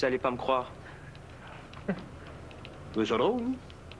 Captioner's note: Rires